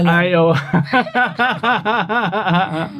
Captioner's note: Speaking Cebuano; laughs